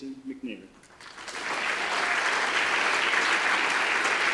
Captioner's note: audience applause